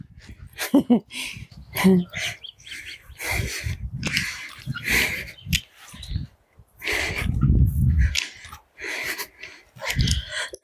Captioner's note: birds chirping